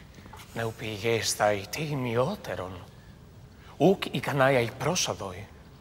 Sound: friend speaking in foreign language

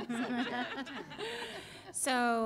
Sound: laughter

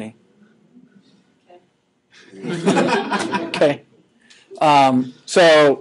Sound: all students laughing

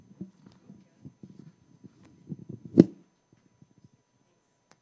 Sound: microphone being unclipped

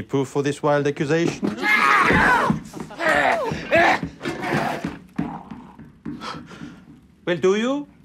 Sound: screaming

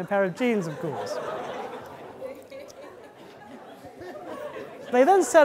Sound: audience laughing

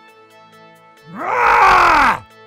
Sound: roaring

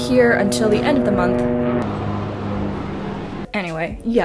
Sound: helicopter noises

